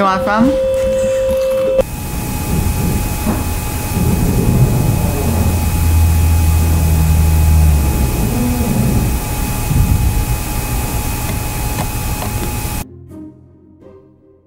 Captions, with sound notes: - You want some? (door dragging)